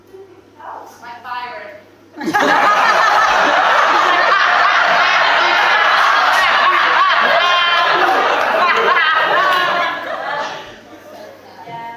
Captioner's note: audience laughs